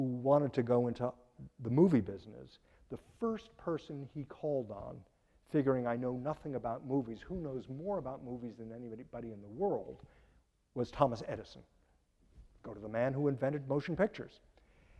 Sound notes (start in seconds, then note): none